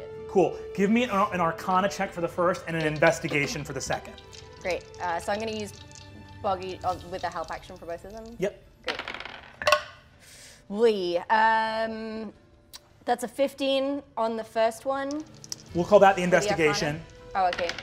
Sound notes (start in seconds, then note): 8.8 dice rolling